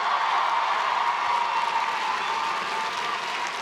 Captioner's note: crowd cheering